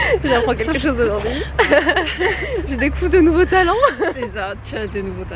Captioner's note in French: rires